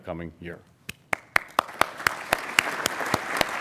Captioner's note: applauding